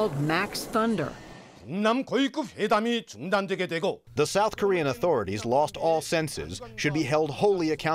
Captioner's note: through translator